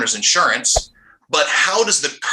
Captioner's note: quick transition sound